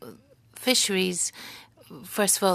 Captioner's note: speaking French